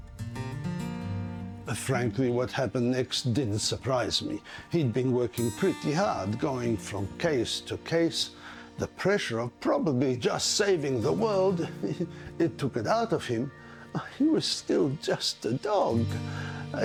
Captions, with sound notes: (mellow music) - Uh, frankly, what happened next didn't surprise me. He'd been working pretty hard, going from case to case. The pressure of probably just saving the world, (laughs) it took it out of him. Uh, he was still just a dog.